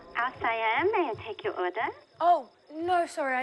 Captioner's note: on phone